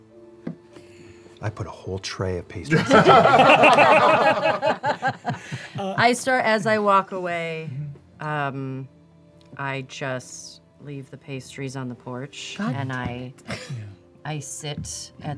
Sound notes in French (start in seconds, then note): 2.7 rires